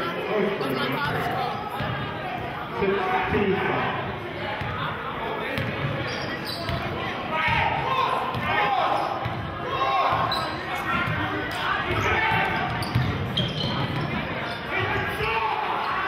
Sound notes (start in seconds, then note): 13.4 yelling